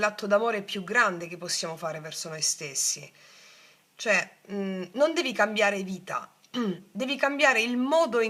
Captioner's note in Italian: schiarire la voce